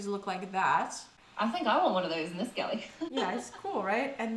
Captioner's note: laughs